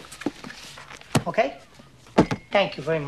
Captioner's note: book thuds